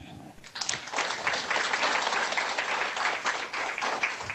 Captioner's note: audience applauding